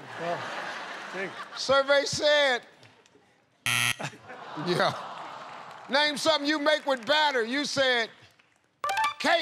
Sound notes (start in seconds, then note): 0.0 laughter; 3.6 buzzer